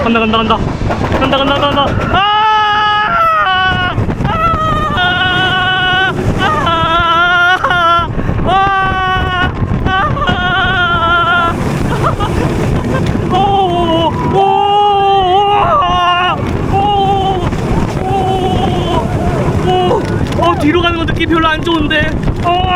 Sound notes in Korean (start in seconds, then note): 2.0 아아아아아아아아아